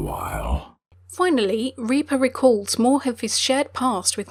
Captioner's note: voiceover